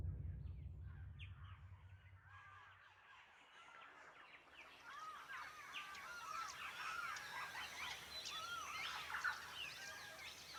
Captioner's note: birds chirping